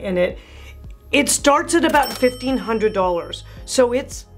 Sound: bell rings

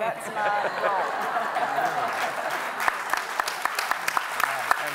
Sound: everyone applauding

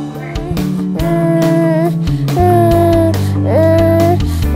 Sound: baby monkey mumbling

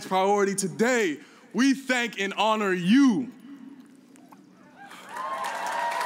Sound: cheers and applause

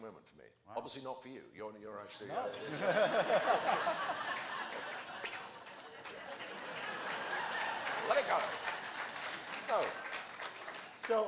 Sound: applause

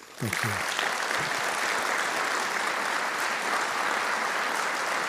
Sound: audience applauding

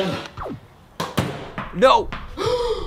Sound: speaks foreign language; TV powers off

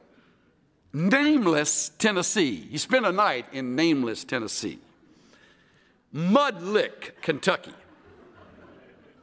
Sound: laughter

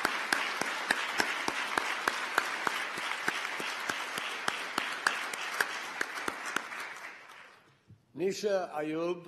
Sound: applause

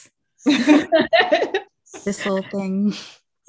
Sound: laughs

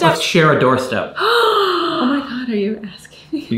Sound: gasps

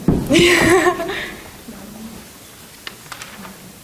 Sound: laughs

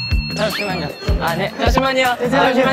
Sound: fast running

